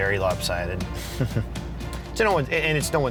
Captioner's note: chuckle